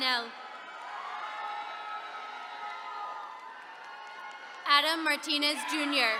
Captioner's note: attendees cheering